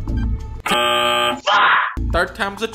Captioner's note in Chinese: 嗡嗡聲